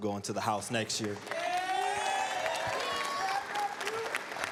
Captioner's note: cheers, applause